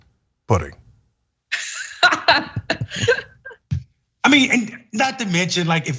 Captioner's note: laugh